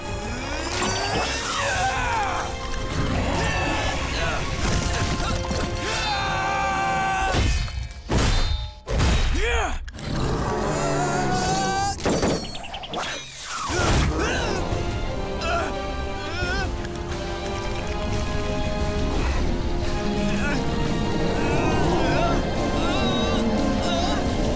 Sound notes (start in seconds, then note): 0.2 grunting; 9.4 grunting; 10.4 screaming; 13.5 grunting; 21.2 grunting